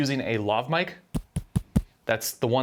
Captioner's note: tapping microphone